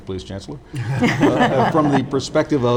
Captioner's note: all laughing